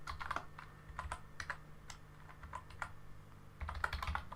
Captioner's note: keyboard typing